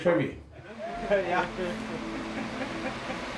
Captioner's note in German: Stimmengewirr, Lachen